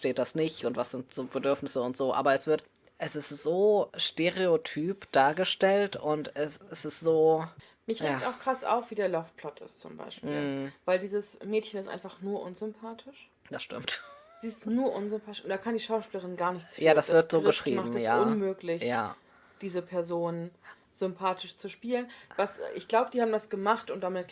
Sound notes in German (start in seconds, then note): 6.9 seufz